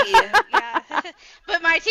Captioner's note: laughing